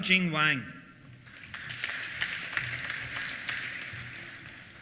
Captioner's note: applause